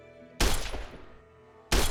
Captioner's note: gunshot; glass Breaking